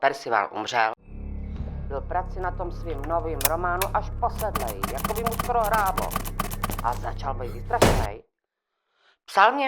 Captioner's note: chair sliding, dramatic music, typewriting, loud bang